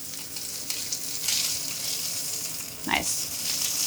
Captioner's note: steak sizzling